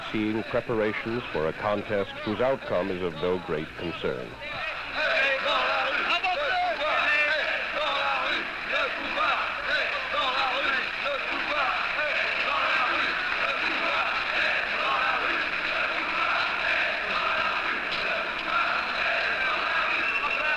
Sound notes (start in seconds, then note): 5.1 chants